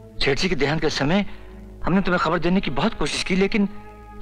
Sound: none

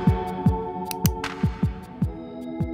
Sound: click

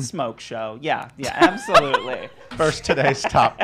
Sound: laughing

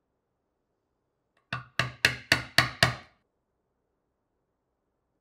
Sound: hammer taps

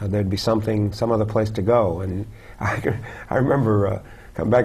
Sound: laugh

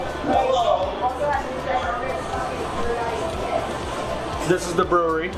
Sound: patron chattering

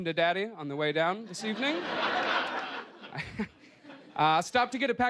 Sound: laughter

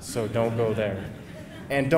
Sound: laughing

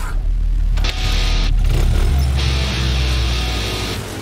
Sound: natural sound, motorcycle kick start, music

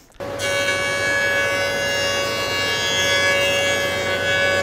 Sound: machine buzzing

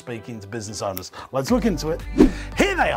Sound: fingers snapping

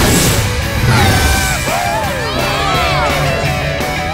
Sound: cheering

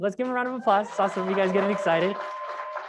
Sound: crowd applauds and cheers

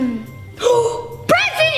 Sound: gasps

